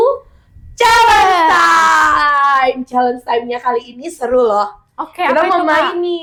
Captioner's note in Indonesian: berteriak